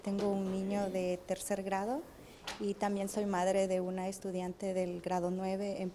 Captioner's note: in a foreign language